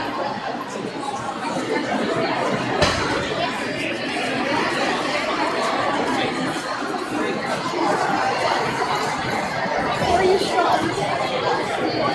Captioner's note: crowd chattering